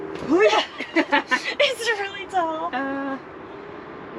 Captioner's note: laugh